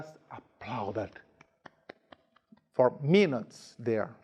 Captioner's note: hands clapping